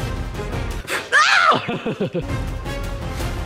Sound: yells

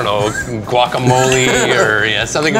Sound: laughs

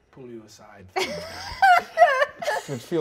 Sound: players laughing

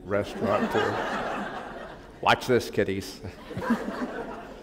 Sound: laughter

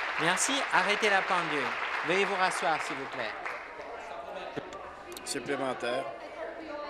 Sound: some Applause

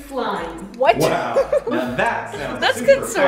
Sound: laughs

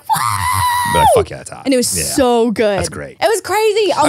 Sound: screams

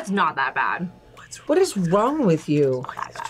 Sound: whispers

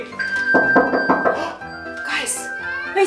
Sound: knock on door

